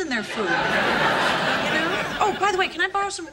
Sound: audience laughing

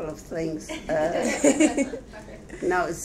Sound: audience laughing

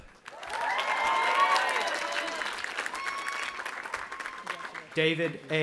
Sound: audience applauding and cheering

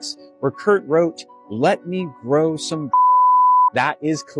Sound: beep

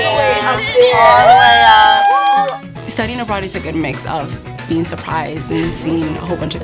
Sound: women cheering

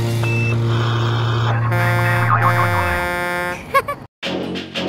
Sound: horn blowing

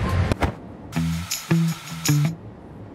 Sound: moves chair

